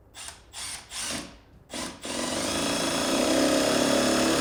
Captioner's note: drill whirring